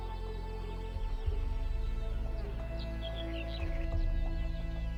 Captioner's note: birds chirping